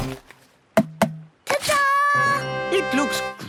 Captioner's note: tapping